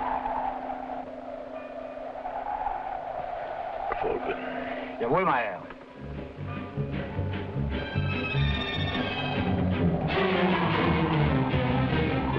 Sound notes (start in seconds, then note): 3.9 Gregory speaking foreign language; 5.2 driver speaking foreign language; 5.9 dramatic music